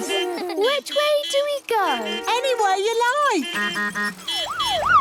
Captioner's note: laughter; honking, siren wailing